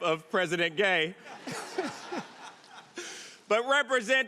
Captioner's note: audience laughing